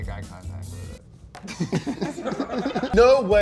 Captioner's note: laughs